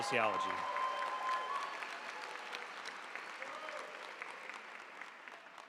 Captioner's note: audience cheering and applauding